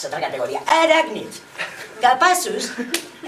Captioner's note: laughs